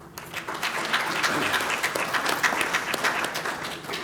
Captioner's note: applause